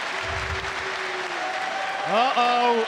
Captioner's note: audience cheers and applauds